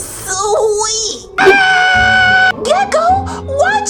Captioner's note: screaming